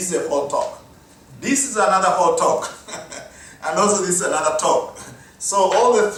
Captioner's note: laugh